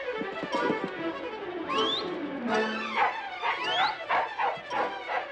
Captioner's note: barking; whistling continues